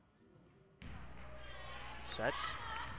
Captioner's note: crowd talking and yelling